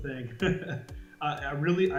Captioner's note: laughs